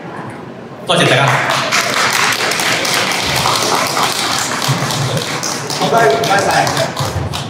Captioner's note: claps